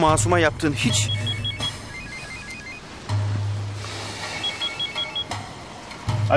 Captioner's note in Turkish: Telefon çalıyor